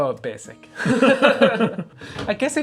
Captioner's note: laughter